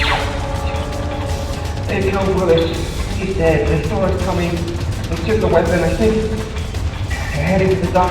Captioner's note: via radio